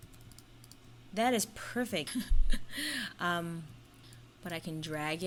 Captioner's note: laughs